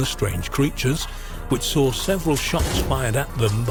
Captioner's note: gun firing